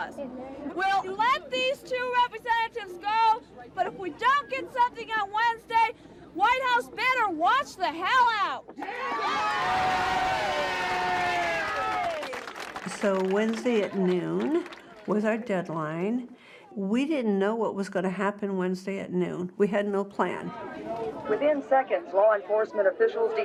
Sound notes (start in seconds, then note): 8.8 crowd cheering and applauding